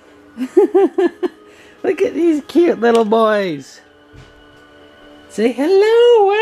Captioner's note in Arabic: يضحك